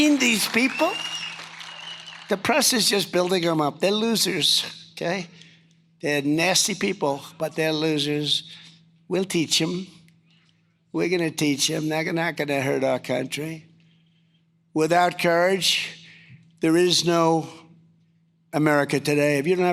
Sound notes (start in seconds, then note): 0.0 cheers & applause